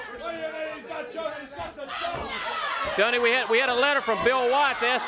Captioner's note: crowd chatter